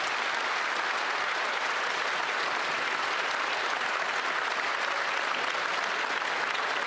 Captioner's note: some Applause